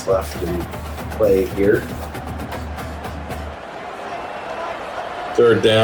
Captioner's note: crowd Noises